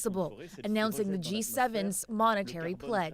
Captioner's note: speaking French